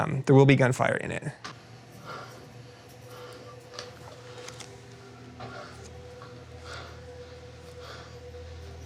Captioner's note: panting